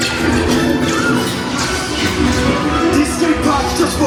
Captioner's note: blasters pew-pewing